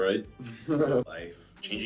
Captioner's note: laughing